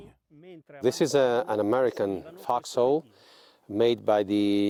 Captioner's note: voiceover